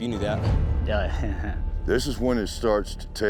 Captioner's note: chuckles